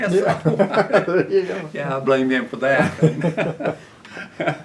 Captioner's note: laughs